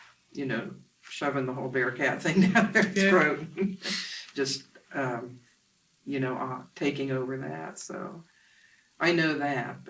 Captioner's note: laughs